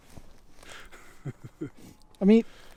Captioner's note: laughing